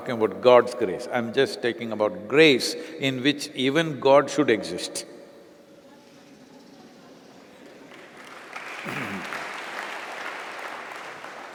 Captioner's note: applause